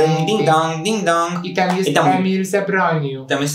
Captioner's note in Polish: dźwięk dzwonka